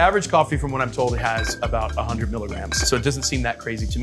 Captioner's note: bottles clanging